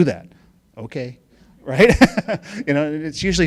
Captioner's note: laughing